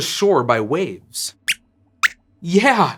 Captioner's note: squeaks squeaks